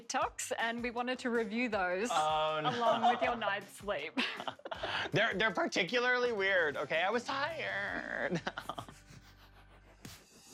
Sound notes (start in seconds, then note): 2.5 laughter; 7.7 laughing